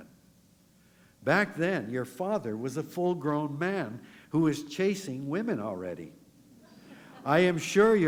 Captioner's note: laughter